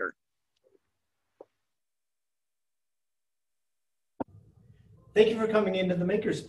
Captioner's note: silence